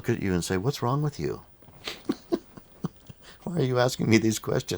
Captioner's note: laughs